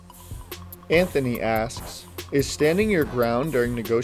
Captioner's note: voiceover